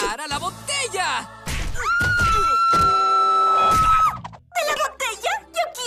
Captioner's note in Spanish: Gritos de loca